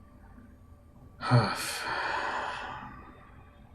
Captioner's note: sighing